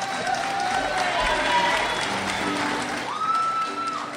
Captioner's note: crowd cheers